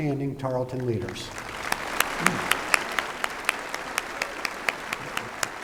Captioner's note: applause